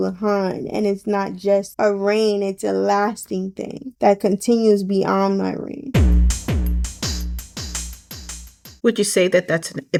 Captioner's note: delayed Beat Sound Effect